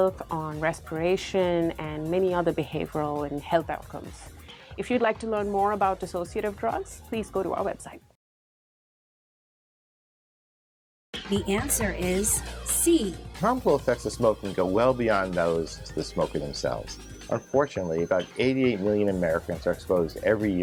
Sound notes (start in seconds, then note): 11.4 female announcer speaking